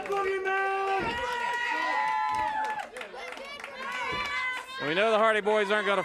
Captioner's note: audience cheers